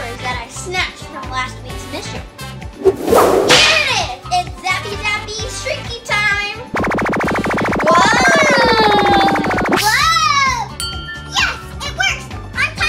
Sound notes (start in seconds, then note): 2.7 zapper whooshing and slashing; 6.7 zapper whirring; 8.1 assistant screaming